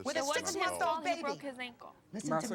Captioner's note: overlapping chatter